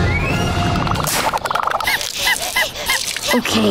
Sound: panting

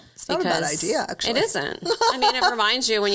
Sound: laughing

